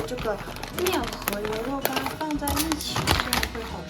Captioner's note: puffs